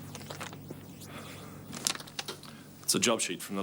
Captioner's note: Dave sighs